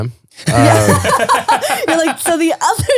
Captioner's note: laughing